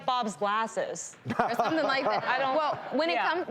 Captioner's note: laughing